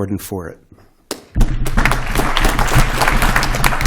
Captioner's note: applause